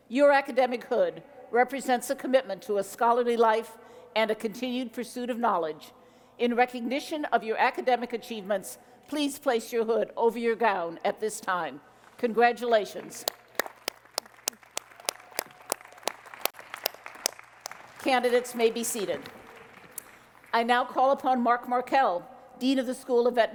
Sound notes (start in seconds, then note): 13.0 applause